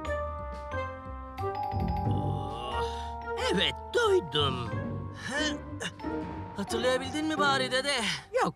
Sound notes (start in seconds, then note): 0.8 tired / effort noises